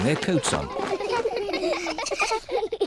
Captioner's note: all laugh